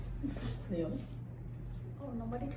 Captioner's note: sniffling